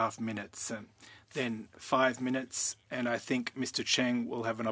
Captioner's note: speaking French